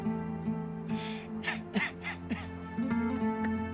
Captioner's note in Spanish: Llorando